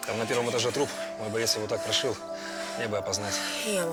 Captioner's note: none